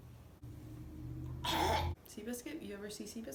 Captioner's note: coughs